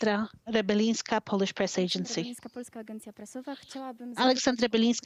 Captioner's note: speaking Foreign Language